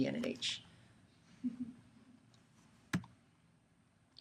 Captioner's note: chuckling